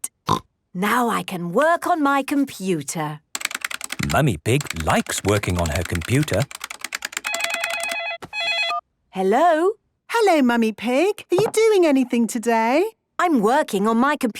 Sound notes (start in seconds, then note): 5.2 phone ringing